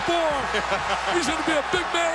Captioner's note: announcers laugh